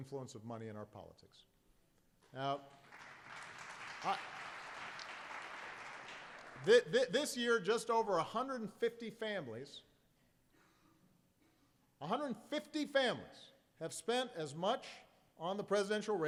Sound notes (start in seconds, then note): 2.6 applause